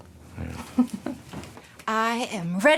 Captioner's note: Maddie chuckles